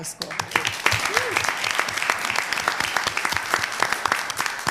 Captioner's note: applause